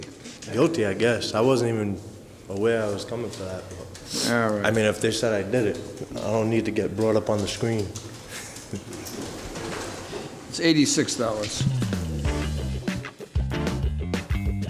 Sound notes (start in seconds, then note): 7.8 chuckles; 11.4 upbeat music